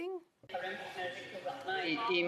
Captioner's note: speaking French